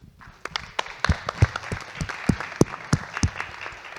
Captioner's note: audience clapping